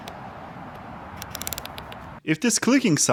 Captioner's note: click sound